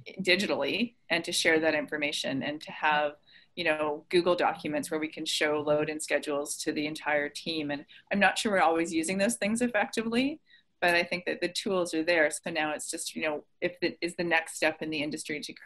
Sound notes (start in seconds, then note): none